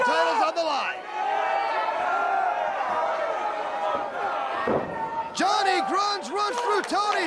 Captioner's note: crowd chatter